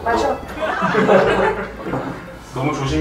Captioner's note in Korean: 웃음